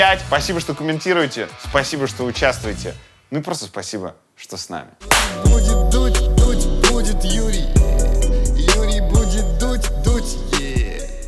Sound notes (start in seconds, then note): 5.1 claps hands; 5.4 credits theme